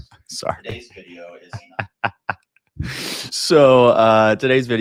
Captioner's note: laughs